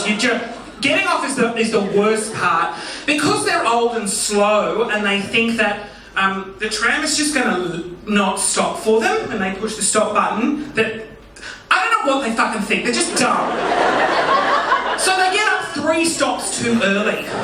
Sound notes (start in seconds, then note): 12.9 audience laughing